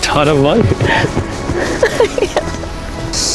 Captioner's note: sobbing